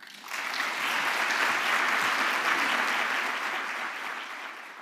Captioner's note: applause